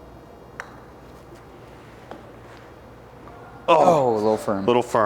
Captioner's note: ball taps